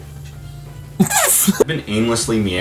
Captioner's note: whoopee cushion